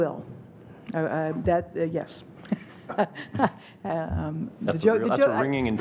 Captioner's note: laughing